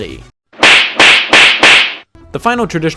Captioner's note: four slaps